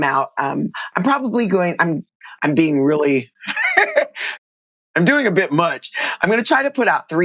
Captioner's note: laughter